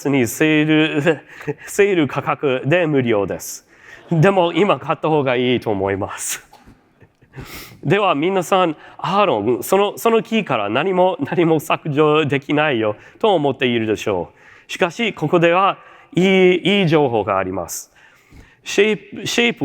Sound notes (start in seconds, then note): 6.6 chuckles